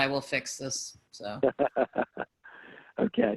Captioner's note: laughing